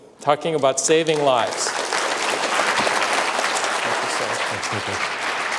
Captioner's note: applause